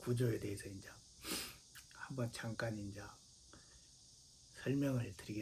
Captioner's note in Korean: 콧방귀